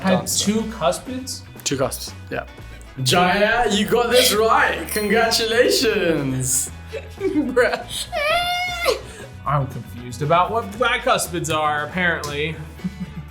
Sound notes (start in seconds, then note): 6.8 laughs